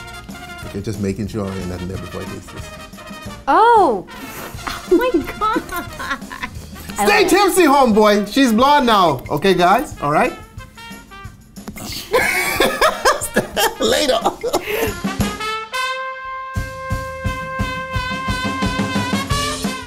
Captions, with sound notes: - Just making sure ain't nothing there before I taste this. - Oh. (laughing) - My God. - Stay tipsy homeboy! She's blonde now, okay guys, all right. (upbeat happy music) (laughing hysterically) Later. (upbeat happy music)